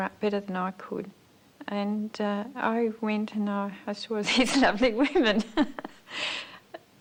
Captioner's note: laughs